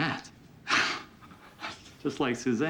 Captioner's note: scoffs